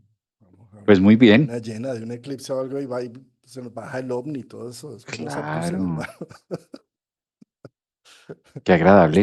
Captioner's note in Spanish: risas